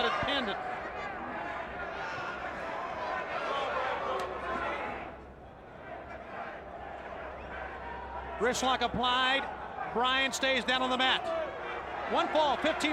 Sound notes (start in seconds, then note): 1.8 crowd chatter